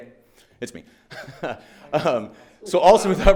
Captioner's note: laughing